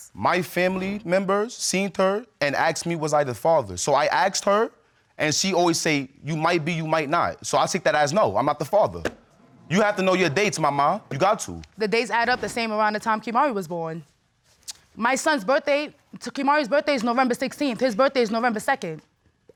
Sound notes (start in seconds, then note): none